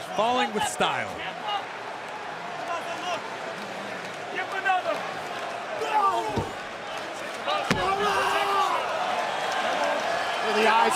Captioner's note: crowd cheering